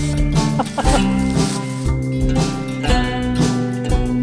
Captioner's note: laughing